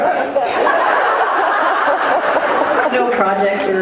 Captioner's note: laughs